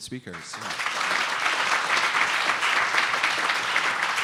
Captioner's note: applause